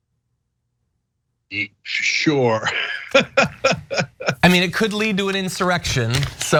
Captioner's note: laugh